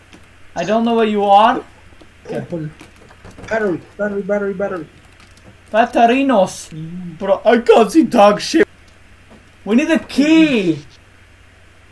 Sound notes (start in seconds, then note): 1.4 door sounds